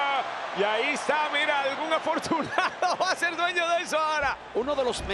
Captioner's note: laugh